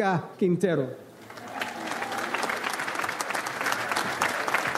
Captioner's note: audience applauds